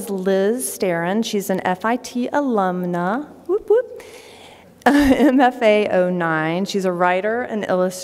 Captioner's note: laughter